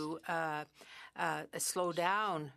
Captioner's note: speaking French